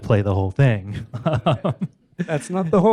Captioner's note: laughs